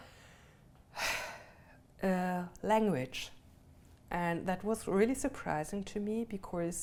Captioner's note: sighs